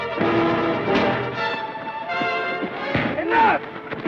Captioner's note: thud